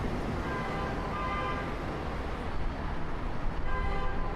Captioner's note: horns honking